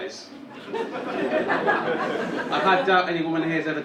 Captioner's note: audience laughing